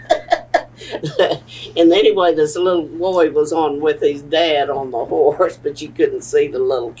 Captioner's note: laughs